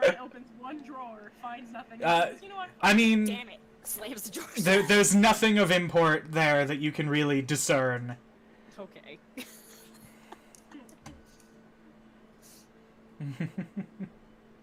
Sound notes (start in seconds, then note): 9.4 laughing; 13.2 chuckles